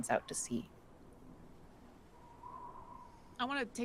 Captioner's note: wind blowing